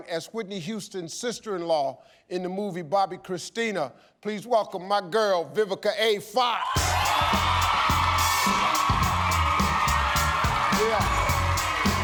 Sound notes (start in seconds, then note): 6.6 audience cheering; 6.7 upbeat pop music